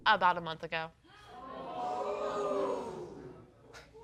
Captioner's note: audience booing